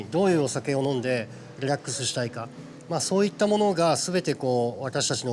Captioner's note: continues speaking Japanese